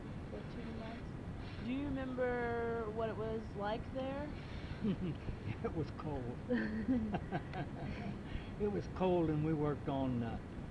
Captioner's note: both laugh